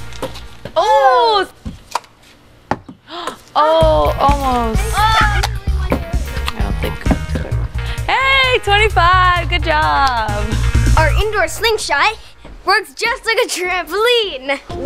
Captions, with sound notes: Ooh! (pop) (gasp) Oh, almost. (pop) Hey, 25! Good job! Our indoor slingshot works just like a trampoline.